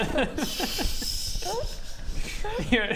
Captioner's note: laughs